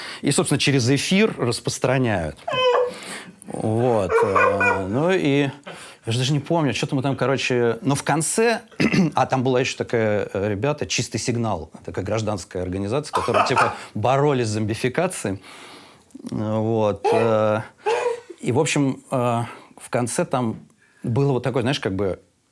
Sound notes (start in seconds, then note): 3.6 Dud laughs hysterically; 17.1 Dud laughs